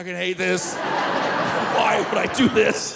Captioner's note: audience laughing; laughing